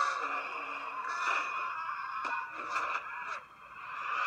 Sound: screaming

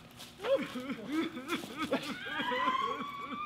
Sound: George cries, Sandy screams

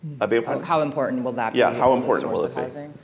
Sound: faintly speaking

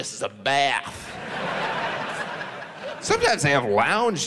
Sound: audience laughs

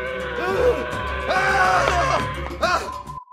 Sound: screams

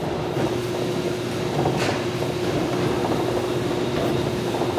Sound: machinery continues whirring

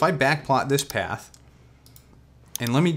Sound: mouse clicks

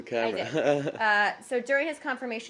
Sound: laughter

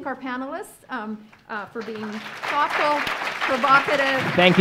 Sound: audience applauds

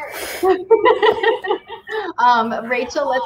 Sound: laughs

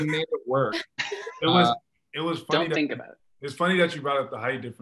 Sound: all laugh

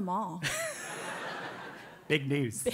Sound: laugh

